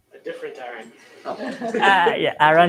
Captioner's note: laughter